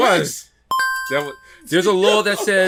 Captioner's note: beeping